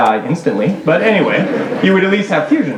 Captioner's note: laughter